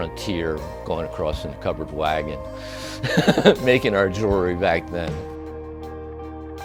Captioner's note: laughs